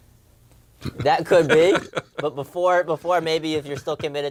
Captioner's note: laugh